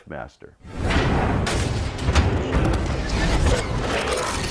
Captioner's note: gears grinding